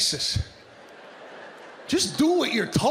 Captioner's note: audience laughing